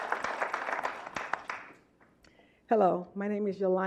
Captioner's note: clapping